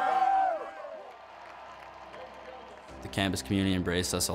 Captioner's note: cheering